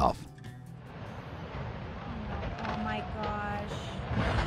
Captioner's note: river flowing